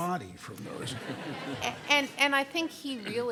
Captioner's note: audience laughing